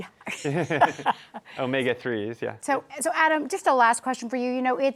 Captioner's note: laughs